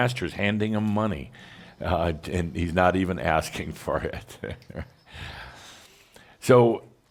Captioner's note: Adamus chuckles